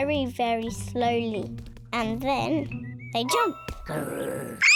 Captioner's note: kids shout; growls